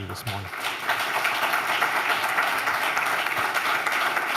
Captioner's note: applause